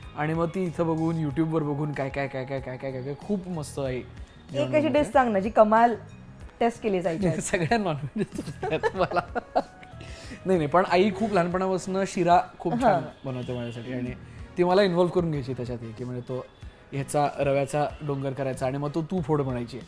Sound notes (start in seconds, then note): 7.2 laughter; 8.2 nervous laughter